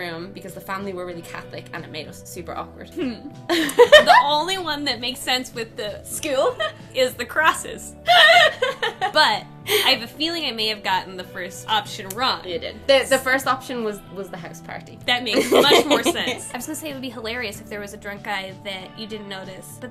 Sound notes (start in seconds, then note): 3.4 laughs